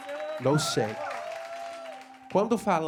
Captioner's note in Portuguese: aplausos